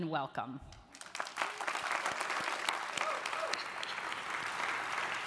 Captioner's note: audience applauding